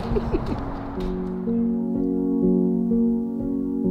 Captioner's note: laughing